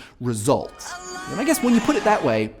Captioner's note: cheering